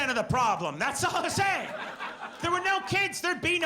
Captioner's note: audience laughs